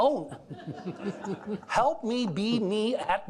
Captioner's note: all laughing